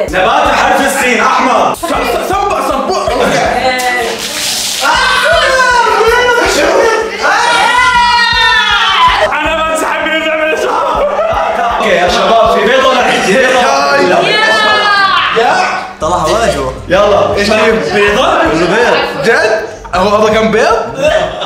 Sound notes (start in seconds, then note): 4.7 screaming